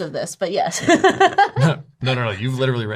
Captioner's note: laughs